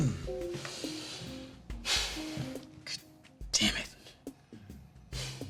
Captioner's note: sighs